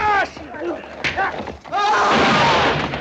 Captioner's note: gunshot